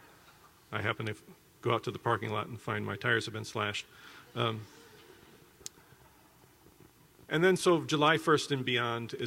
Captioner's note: laughter